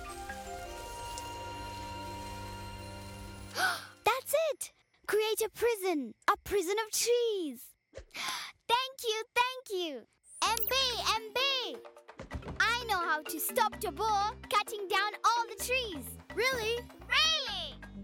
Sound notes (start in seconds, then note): 0.0 leaves rustling, soft rumbling; 3.1 gasping